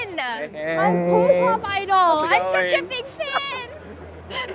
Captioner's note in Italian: ride; risate